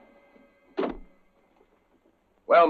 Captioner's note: door closes